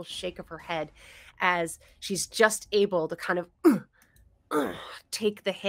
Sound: grunts

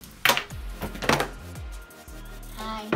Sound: box drops

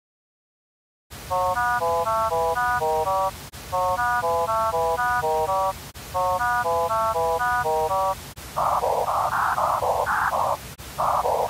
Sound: noise and pitch sounds

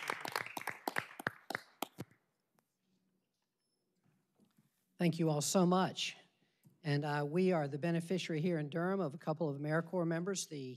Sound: applause

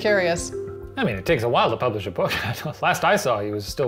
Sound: laughs

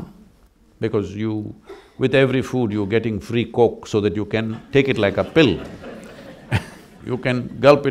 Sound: laughter

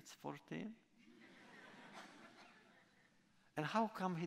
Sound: laughter

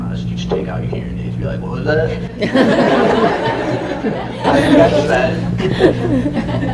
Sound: laughter

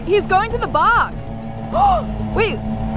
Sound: gasps

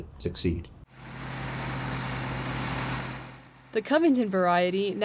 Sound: engine humming; equipment whirring

